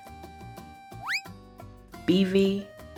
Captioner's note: slide whistle